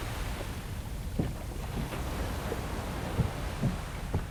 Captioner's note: waves